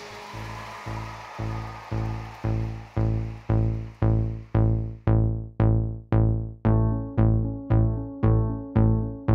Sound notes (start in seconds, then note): 0.0 applause